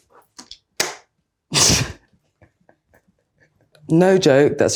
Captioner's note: Adwoa laughing